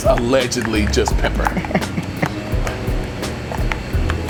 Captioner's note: laughs